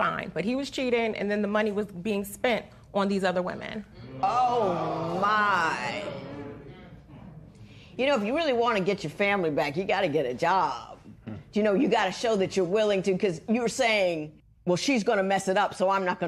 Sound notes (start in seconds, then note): 4.2 spectators exclaim